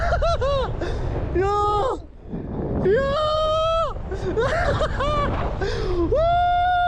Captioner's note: laughs